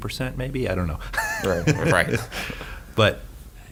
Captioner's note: all laugh